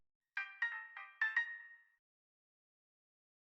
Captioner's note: a chime is heard